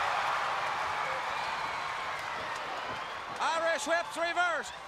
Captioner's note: crowd cheering